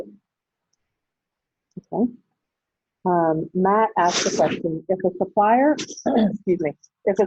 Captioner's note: clears throat